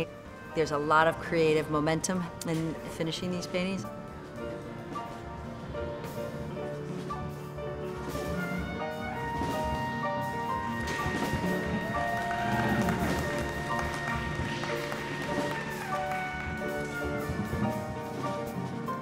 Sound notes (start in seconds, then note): 11.4 clapping and cheering